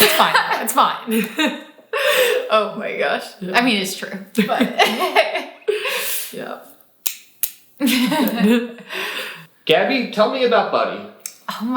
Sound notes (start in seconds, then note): 4.5 both laughing